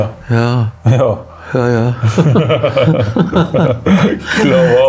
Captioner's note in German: Beide lachen